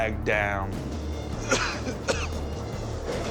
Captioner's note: coughs